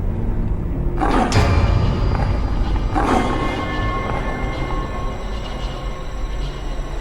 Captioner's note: demons snarl and howl